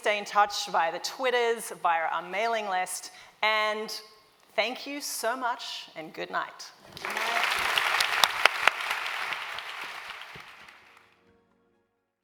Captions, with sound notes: much. Please stay in touch by twitter, by our mailing list, and thank you so much, and good night. [Applause]